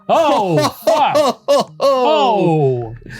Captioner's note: Ryan laughing